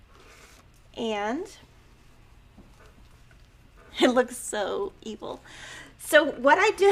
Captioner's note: chuckling